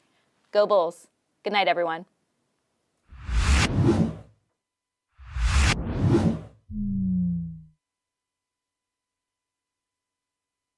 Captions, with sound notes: Go Bulls. Goodnight, everyone. (air swooshes)